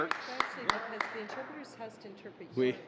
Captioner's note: cheering and applause